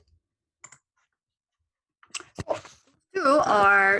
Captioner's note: keyboard clicking